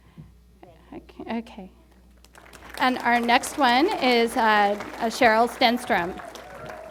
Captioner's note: applause